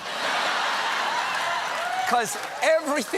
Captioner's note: laughter